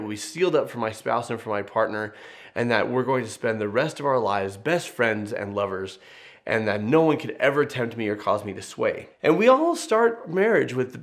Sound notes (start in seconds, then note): none